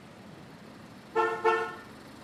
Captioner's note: car horn